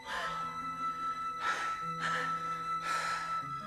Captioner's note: panting